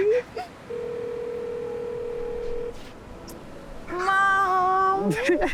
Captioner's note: phone ringing